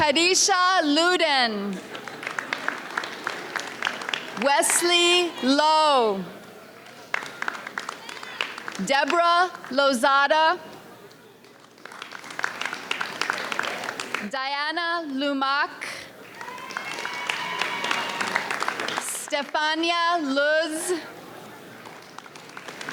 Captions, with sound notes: Kadisha Luden. (audience applauds) Wesley Lowe. (audience applauds) Debra Lozada. (audience applauds) Diana Lumack. (audience cheers) Stefania Luz. (audience applauds)